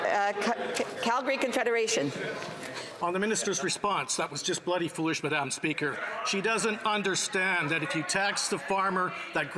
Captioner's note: crowd noise